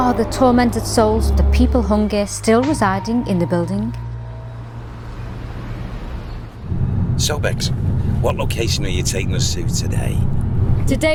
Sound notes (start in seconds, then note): 5.1 car humming